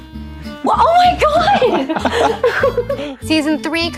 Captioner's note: Benoit laughs